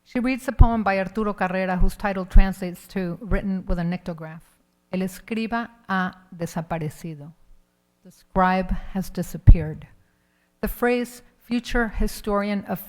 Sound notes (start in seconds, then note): 4.8 speaks in Spanish